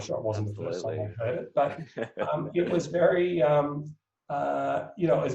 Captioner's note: laughs